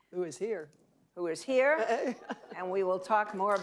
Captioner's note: laughing